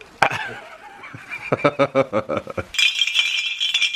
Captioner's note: laughs